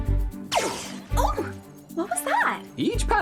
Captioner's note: exclaims in pain